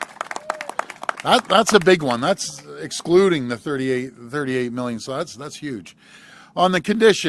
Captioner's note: applause